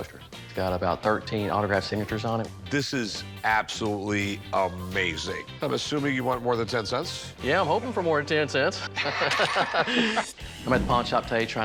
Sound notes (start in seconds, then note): 8.8 laughter